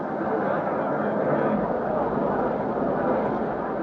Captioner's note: crowd murmuring